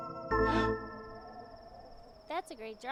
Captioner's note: Farley gasps